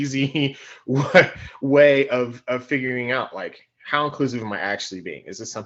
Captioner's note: laughing